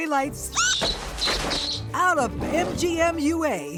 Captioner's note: animal screeching